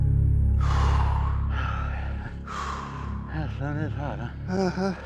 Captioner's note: panting